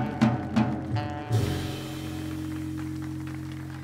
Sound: audience applauds

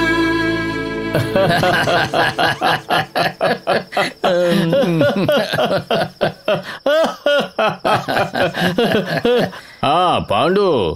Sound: laughs

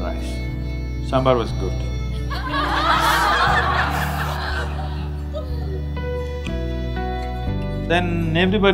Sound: laughter

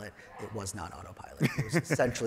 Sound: chuckles

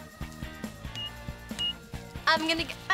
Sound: beeping

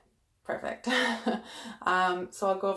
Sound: chuckles

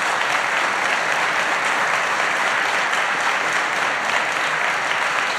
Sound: applause

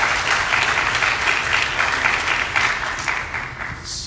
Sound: applause

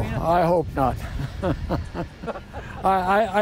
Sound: laughter

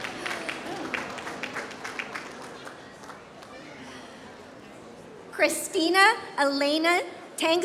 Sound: applause

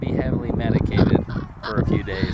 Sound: chuckles

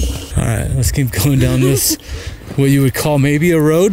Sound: laughs

